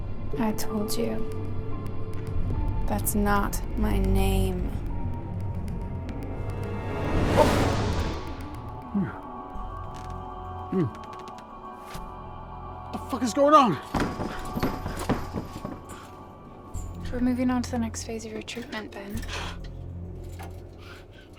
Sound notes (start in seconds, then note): 13.8 rattling